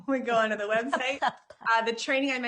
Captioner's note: chuckling